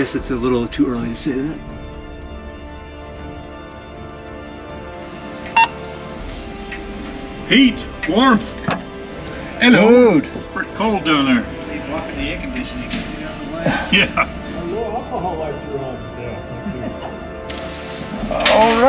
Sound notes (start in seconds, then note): 5.6 radio beeps; 15.5 men chattering